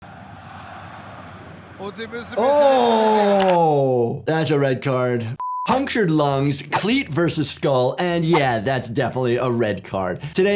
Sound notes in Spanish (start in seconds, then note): 0.0 multitud aplaudiendo; 2.9 clics del ratón; 5.4 la pantalla emite un pitido